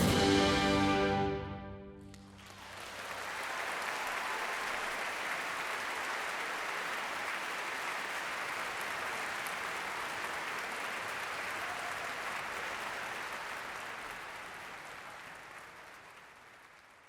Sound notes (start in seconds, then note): 0.0 grand orchestral music; 2.9 audience applauding